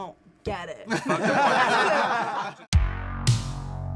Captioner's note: everyone laughs; techno music